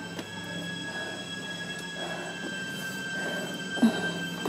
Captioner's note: ominous music; panting